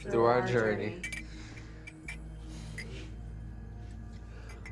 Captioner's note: cups clinking